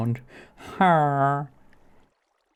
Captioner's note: villager huh